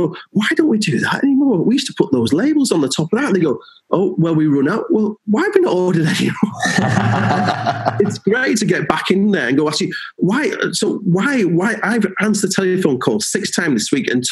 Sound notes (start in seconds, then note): 6.1 laughing